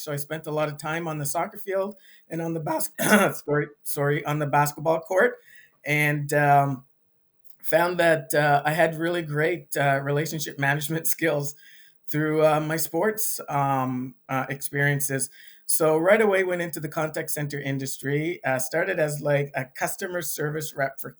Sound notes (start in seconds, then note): 2.9 throat clears